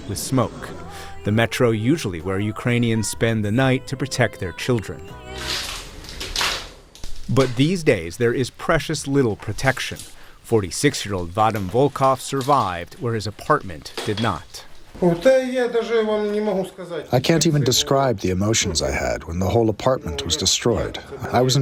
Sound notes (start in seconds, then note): 16.6 through translator